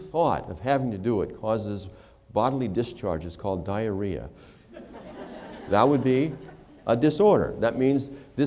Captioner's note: laughter